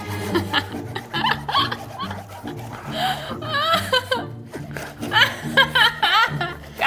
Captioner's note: both chuckling; tense music; chuckling; knife buzzing